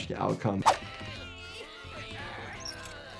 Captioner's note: gentle music; pulley squeaks; animals straining